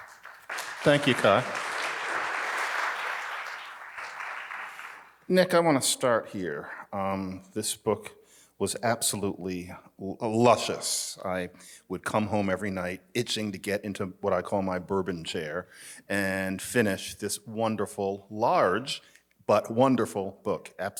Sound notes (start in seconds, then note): 0.0 attendees clapping